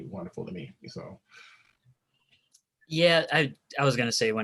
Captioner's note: murmurs